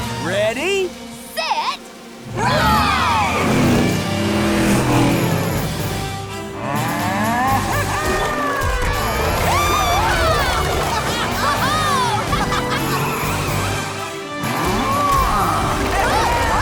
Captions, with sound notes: -Ready? -Set... Ride! Yee haw! [laughing] [mooing]